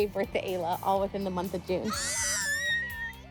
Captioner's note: kids screaming